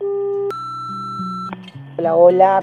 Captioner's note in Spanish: Bip contestador automático